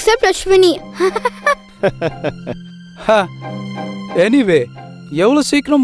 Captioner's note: laughs